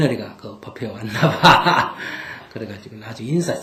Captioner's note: laughter